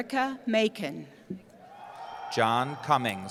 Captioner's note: cheering